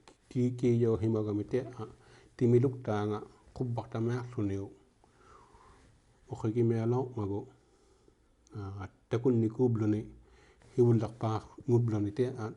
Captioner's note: speaking inuktitut